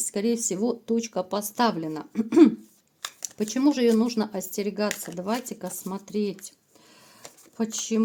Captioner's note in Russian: откашливается